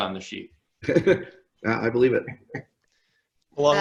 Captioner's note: laughs